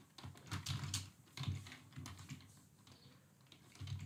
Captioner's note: keyboard clicks